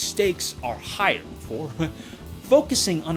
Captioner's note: chuckles